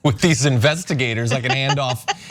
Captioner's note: laugh